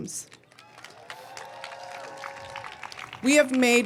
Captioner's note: audience cheering